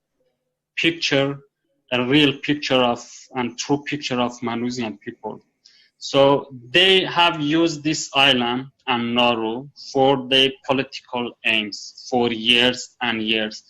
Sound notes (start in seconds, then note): none